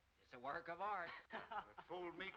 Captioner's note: laughing